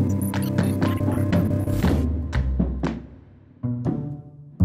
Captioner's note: electronics crackling